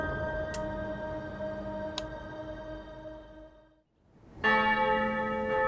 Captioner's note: electronic noise from light bulb; church bells ringing